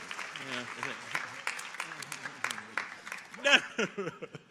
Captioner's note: audience applauding